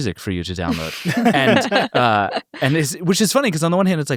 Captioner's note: everyone laughs